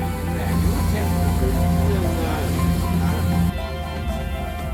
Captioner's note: Norwegian